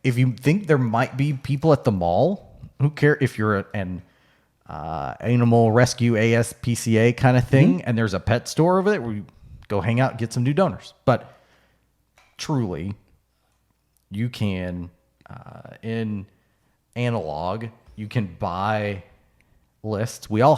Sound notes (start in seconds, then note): none